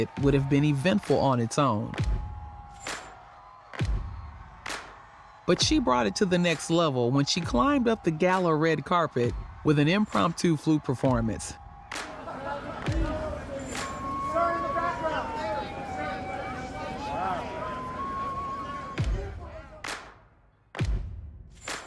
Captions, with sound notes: would have been eventful on its own. But she brought it to the next level when she climbed up the Gala red carpet with an impromptu flute performance. (people shouting) (flute music) (upbeat music)